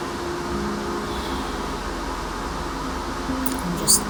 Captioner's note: sighs